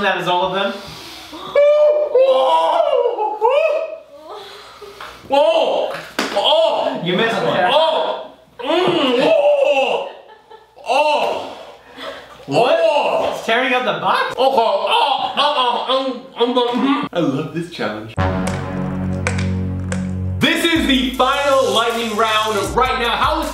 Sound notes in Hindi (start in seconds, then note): 6.2 हस रहा; 8.9 चिल्ला; 18.2 अशुभ संगीत